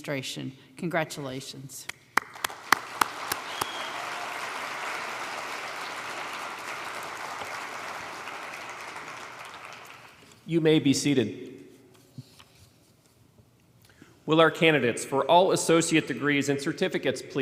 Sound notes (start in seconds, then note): 5.4 applause